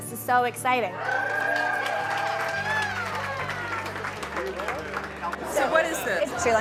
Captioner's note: crowd cheering and applauding